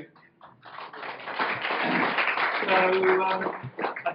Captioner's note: audience applauds